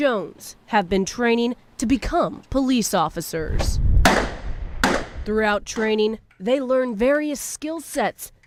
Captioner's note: gunshots